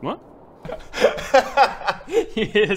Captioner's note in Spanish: Risas